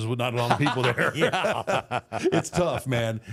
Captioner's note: both laughing